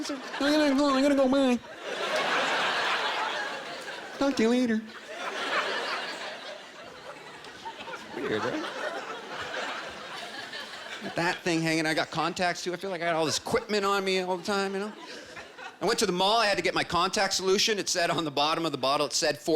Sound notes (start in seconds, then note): 0.2 nasal voice; 7.0 normal voice